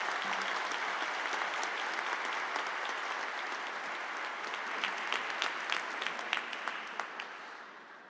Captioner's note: applause